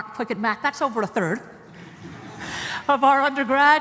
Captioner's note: laughter